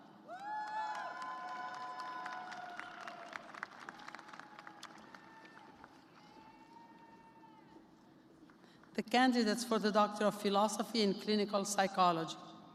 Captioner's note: cheers and applause